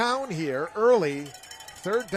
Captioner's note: applause